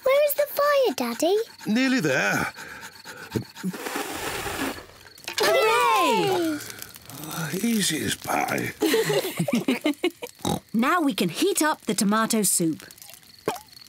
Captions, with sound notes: -Where is the fire, Daddy? -Nearly there. (BLOWS AIR) (ALL CHEER) -Oh, easy as pie. -(ALL LAUGH) (OINKS) Now we can heat up the tomato soup.